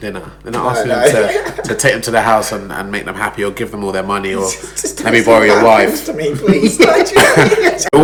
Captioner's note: laughs; laughs